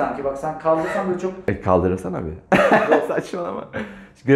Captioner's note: laughter